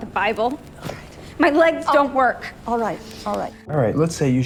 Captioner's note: shouting